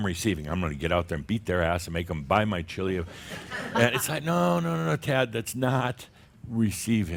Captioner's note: laughter